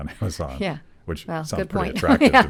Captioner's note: laughing